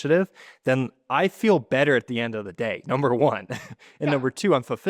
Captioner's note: laughs